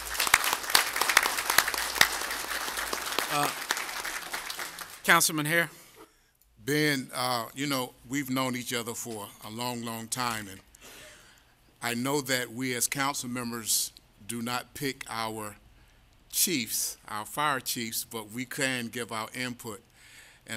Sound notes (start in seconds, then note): 4.3 applause